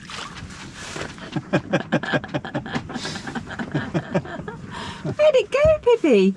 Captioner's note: laughter